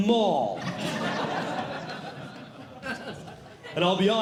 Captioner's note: audience Laughing